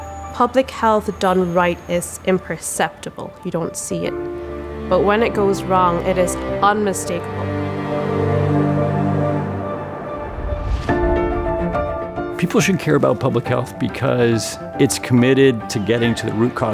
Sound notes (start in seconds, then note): 9.0 wind